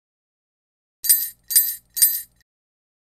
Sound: sound of sleigh bells

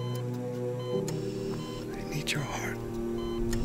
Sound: whispering

